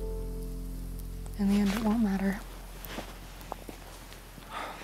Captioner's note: sighs